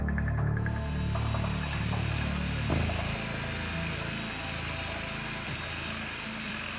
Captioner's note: tool sounds